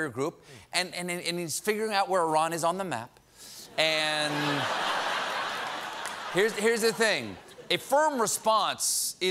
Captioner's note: laughter